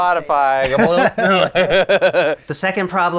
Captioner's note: laughing